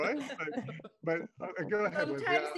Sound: laughter

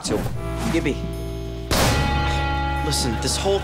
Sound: slamming

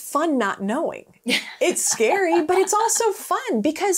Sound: laughing

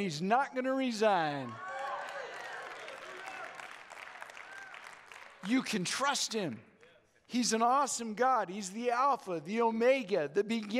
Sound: audience Cheers

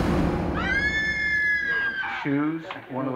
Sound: woman screaming

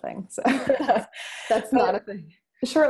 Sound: both laughing

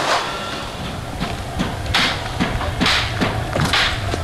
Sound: banging

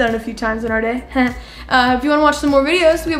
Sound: chuckles

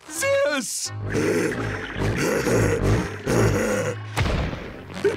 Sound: grunting

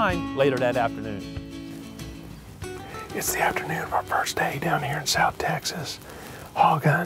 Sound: whispering

